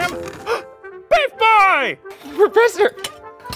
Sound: gasps

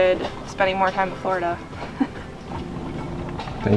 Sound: chuckles

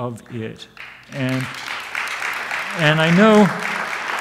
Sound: audience applauds

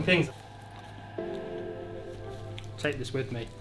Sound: loud chew

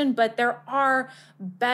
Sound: none

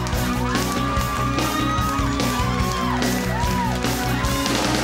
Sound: audience cheering

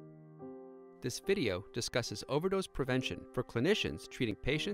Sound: male voice over speaking

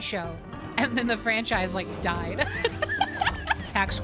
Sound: laughter

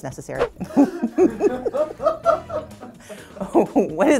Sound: producer and Stacey laugh

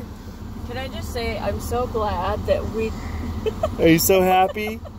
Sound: laughing

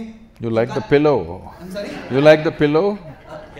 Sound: few laugh

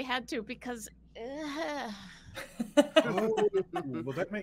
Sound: Neb groans

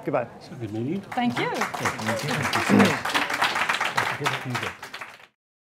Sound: applause

